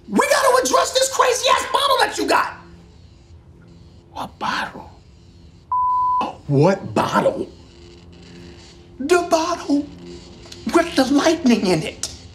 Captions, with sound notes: We got to address this crazy ass bottle that you got. - What bottle? - (beep) What bottle? The bottle, with the lightning in it.